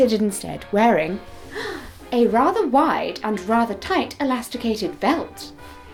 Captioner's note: small gasp